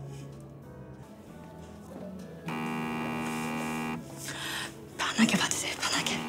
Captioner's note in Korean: 휴대전화 진동음